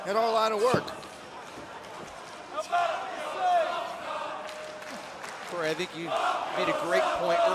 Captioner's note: crowd cheering